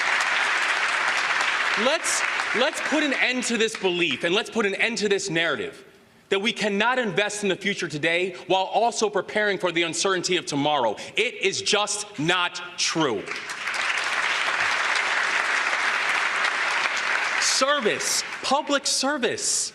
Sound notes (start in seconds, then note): 0.0 applause; 6.8 applause